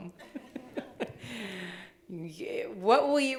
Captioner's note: laughing